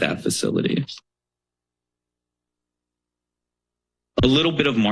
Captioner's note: silence